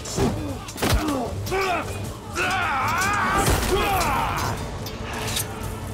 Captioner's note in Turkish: Dövüş sesleri